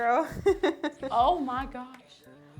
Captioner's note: laughs